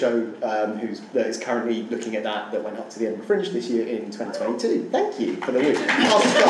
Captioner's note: wooo